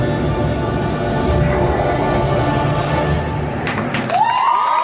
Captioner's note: Dormammu screaming; guests cheering and applauding